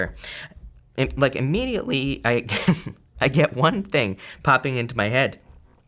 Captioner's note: laughs